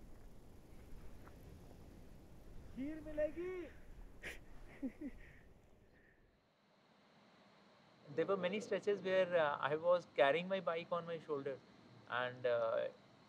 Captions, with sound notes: You will get Rice Pudding. [chuckles] There were many stretches where I was carrying my bike on my shoulders. And...